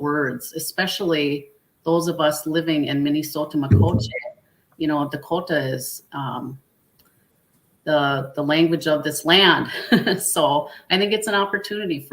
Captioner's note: laughs